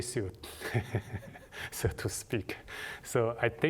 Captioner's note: laughter